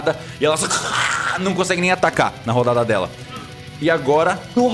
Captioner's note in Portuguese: grunhido